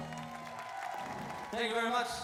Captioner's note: audience cheers